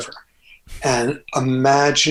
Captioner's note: Andrew laughs